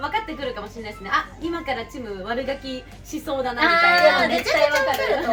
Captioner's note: laughs